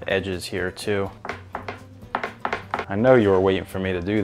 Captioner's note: chop thumping